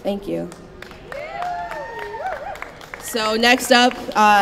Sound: applause, cheering

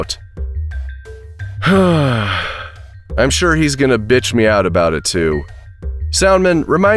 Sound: sighs

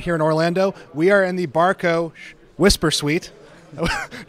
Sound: shushes; laughs

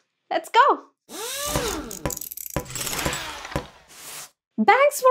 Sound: drilling

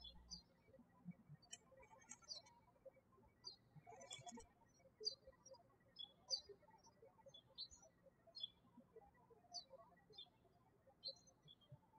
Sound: birds chirping

